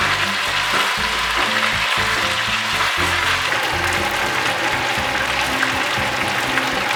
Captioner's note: sizzle